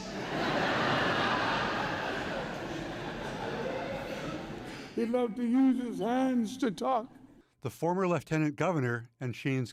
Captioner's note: laughter